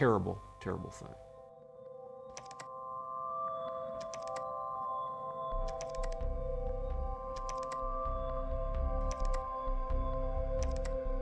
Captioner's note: keyboard clicking